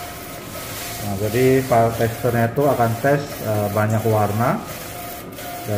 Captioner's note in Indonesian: suara mesin printer